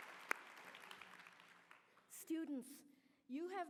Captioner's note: applause